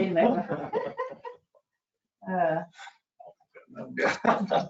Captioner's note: chuckling